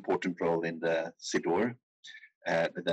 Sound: speaking in foreign language

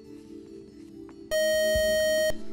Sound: beeping

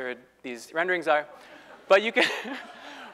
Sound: laugh

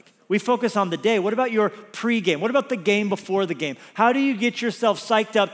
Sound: none

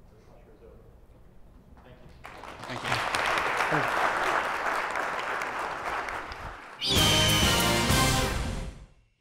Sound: applause

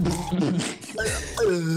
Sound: seizure sounds commence; seizure sounds continue

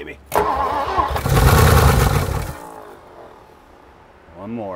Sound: engine struggling to start

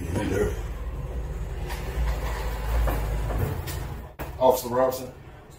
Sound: car noise in background

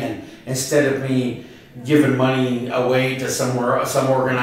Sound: none

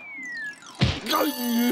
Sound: exclaims

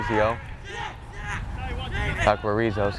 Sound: players talking and yelling

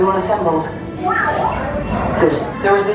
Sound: BB-8 bleeping

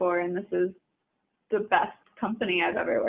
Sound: none

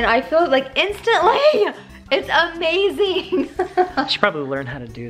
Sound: laughter

